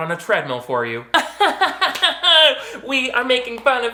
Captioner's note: laughing